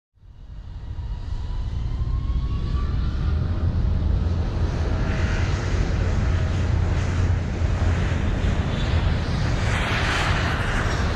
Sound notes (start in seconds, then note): 0.0 airplane sounds